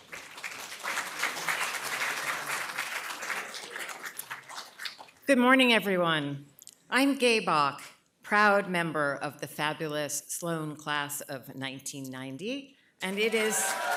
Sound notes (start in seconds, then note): 13.0 applause